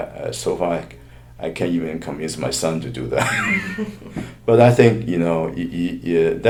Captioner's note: laughs